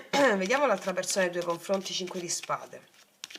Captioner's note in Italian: schiarire la voce